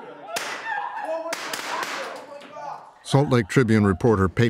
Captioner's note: gun firing blanks